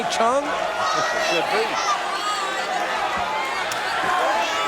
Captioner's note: audience cheering